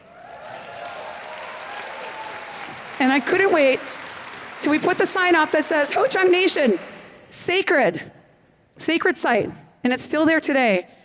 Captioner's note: applause